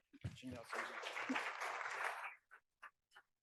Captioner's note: applause